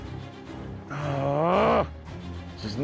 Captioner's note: groans in frustration